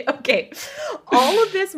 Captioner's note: laughs